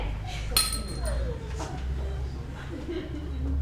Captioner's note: ding